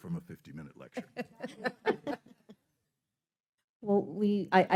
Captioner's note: laughing